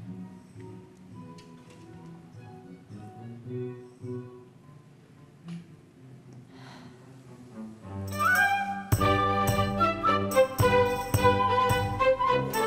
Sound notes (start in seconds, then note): 6.5 Anna sighs; 7.5 bouncy upbeat orchestral music